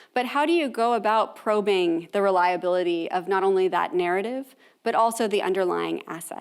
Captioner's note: none